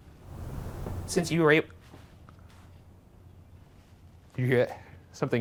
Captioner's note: knocking